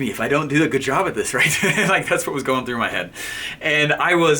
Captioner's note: laughing